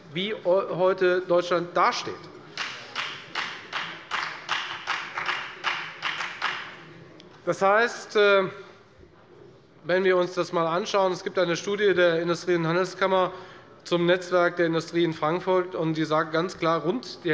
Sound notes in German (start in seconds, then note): 2.5 Beifall bei der FDP